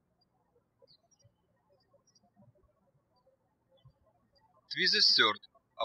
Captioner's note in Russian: птички щебечут